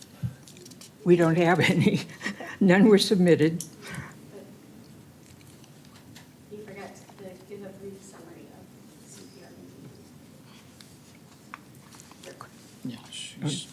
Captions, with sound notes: We don't have any. [LAUGHTER] None were submitted. You forgot the brief summary of the CPRB.